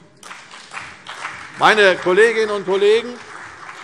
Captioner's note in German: Beifall CDU und BÜNDNIS 90/DIE GRÜNEN